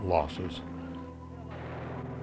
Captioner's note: ^gunfire^